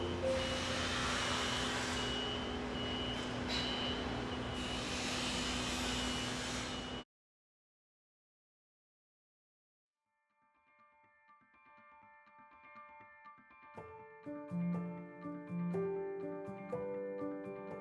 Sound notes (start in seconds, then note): 0.0 gentle music; 7.1 construction noise; 13.8 gentle music